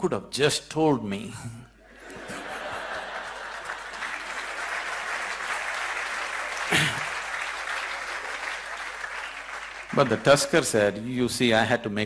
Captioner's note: laughter & applause